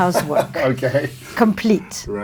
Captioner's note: laughing